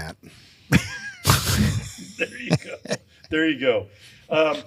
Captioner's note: chuckles